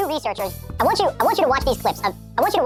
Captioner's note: voice pitched up